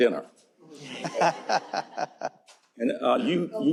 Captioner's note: laughter